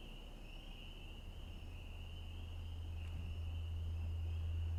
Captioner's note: crickets chirping